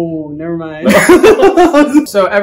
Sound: laughter

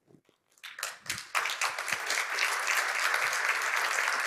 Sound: applause

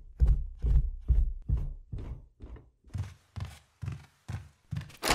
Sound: door opens

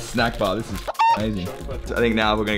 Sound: chicken cluck

